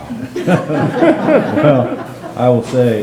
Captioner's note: members laughing